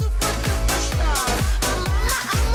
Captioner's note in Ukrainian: none